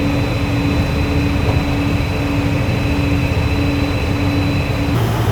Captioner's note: airplane engine whines